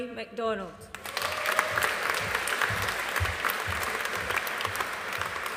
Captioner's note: audience applauding